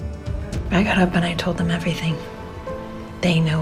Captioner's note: voiceover